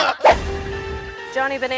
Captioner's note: air whooshing